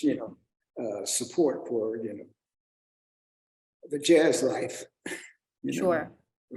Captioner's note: chuckles